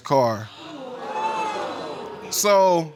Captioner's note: audience exclaiming